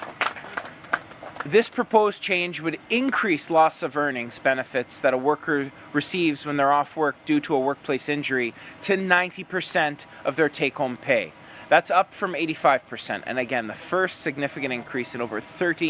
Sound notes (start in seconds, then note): 1.8 applause